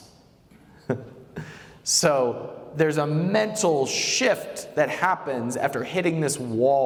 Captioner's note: chuckles